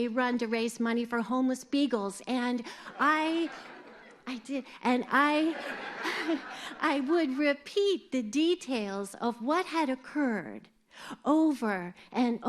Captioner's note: laughter